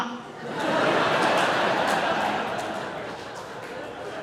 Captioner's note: audience laughs